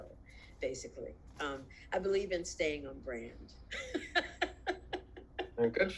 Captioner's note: laughs